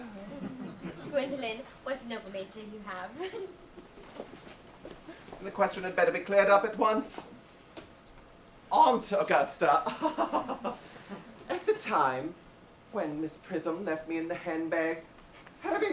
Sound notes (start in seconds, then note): 9.8 giggles